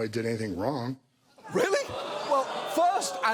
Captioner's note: audience groans